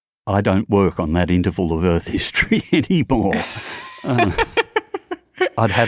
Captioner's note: laughs